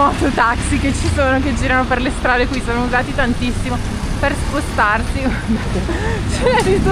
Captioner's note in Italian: risate